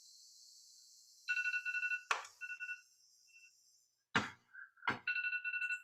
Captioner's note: phone continues ringing